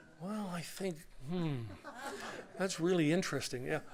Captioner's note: laughter